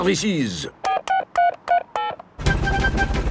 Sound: dialing

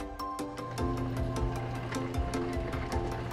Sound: hangar door opens

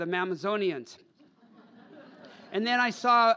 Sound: laughter

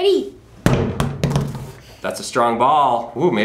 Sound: bouncing

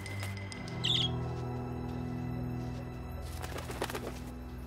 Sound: wings fluttering; cheeps; wings fluttering

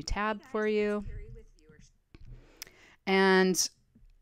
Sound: chattering in preview video

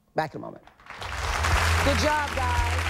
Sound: audience applauding

